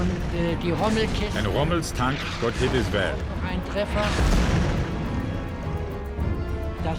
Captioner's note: tank explodes